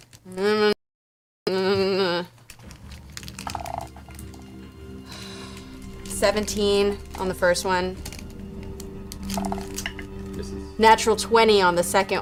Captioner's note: nervous noises